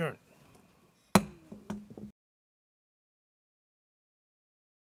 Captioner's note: gavel thuds